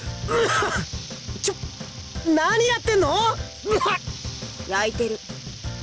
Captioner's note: coughs; cough